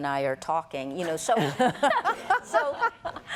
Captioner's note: laughter